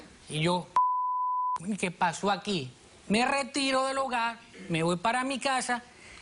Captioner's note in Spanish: Bip